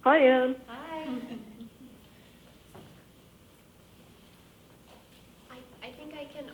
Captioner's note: laughing